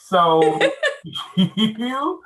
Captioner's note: laughing